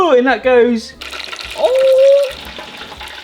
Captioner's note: oil sizzles